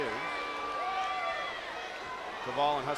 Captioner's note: crowd yelling